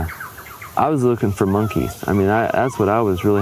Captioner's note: monkey calls